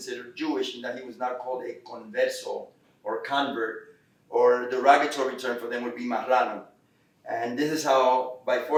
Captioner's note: Spanish